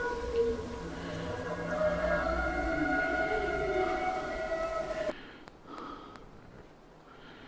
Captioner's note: Ruggiero's breath